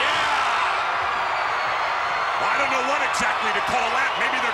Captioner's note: applause